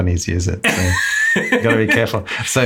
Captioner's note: laughs